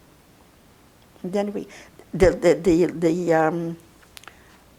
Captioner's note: mumbling